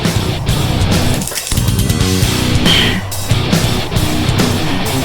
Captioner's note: bones crack